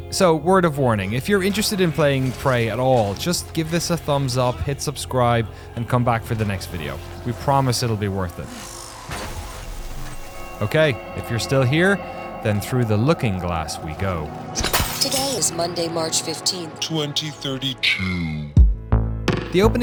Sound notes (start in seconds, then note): 8.7 booming